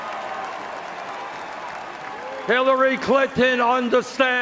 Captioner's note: cheers and Applause